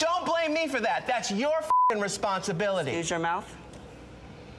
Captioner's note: beep